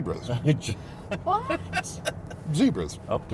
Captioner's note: passenger laughs